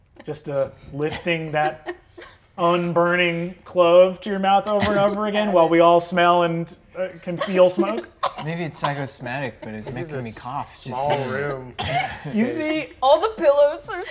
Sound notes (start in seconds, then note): 7.2 coughing